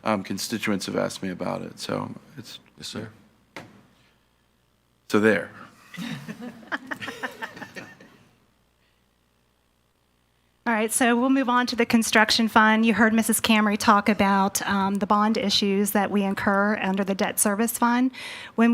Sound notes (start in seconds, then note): 5.9 laughter